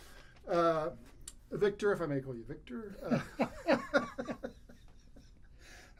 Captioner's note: laughs